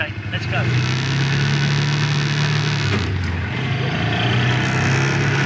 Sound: engine roaring

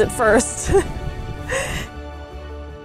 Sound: background music; laughs; background music

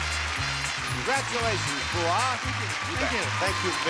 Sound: audience clapping

